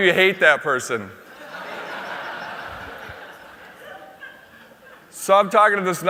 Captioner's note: laughter